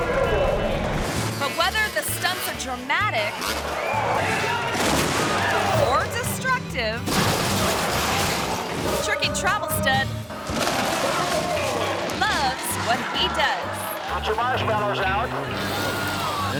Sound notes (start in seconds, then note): 0.0 box explodes; 4.8 car crunches; 7.3 cars crunch; 10.0 fire crackles; 15.6 extinguishers whoosh